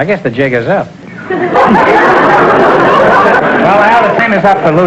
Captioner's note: audience laughter